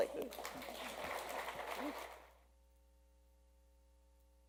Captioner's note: applause